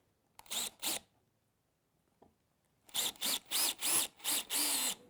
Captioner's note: screw gun